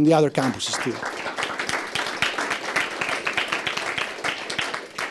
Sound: applause

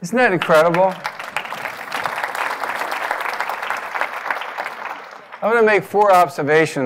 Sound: applause

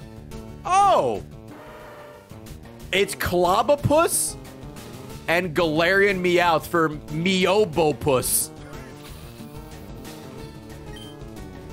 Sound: laughs

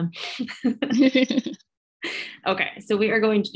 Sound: laughter

